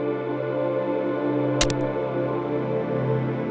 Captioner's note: click